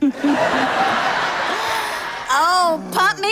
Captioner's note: audience laughs